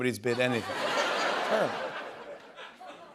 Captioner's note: laughter